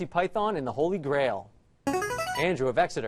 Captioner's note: answer bell